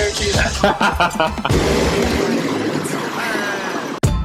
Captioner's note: laughter